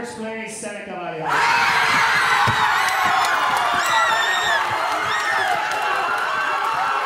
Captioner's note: audience cheering and applauding